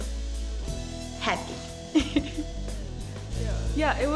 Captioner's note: chuckling